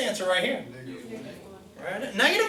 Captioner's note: voiceover